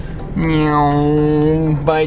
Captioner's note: man makes race car sound